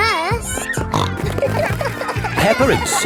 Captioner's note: snorting